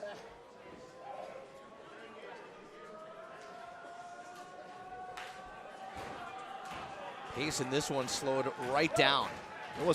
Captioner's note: crowd chatter